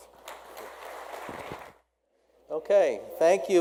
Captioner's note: audience clapping